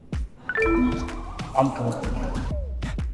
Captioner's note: electronics beep